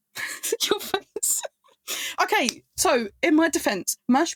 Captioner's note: laughing